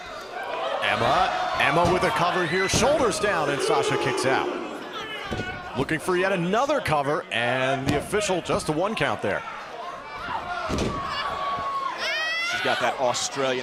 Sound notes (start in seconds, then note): 3.0 crowd cheering; 11.7 crowd chatter